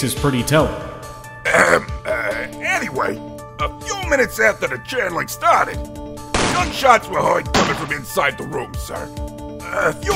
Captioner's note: ahem!